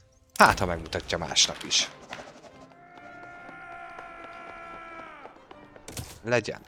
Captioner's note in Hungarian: sikítás